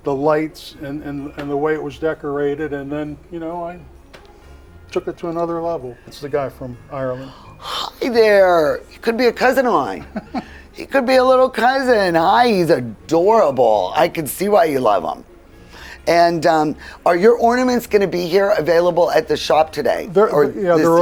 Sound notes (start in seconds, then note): 9.9 laughing